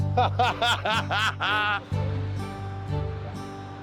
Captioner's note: laughing